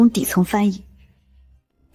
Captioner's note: German